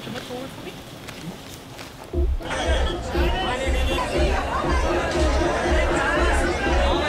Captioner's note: overlapping chatter